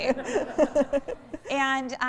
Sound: laughter

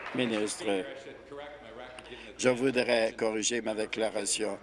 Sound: applause

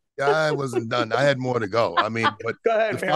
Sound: laughing

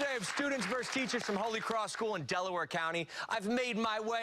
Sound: cheers and applause

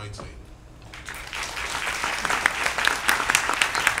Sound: applause

